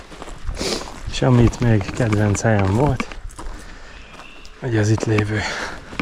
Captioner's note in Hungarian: horkantás